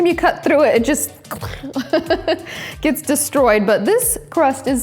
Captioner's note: laughs